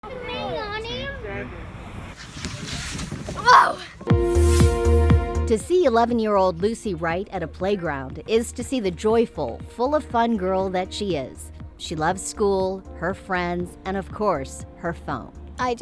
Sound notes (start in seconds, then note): 1.4 whooshing; 4.2 upbeat music